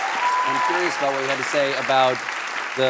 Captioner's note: applause